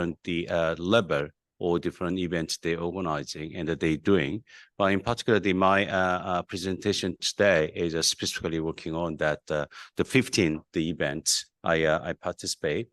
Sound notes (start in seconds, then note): none